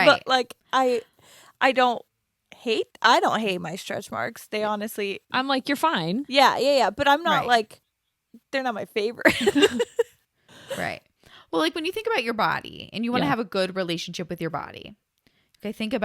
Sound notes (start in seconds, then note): 9.3 laughs